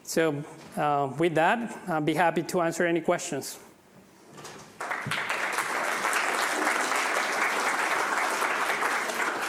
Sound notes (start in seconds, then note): 4.7 audience clapping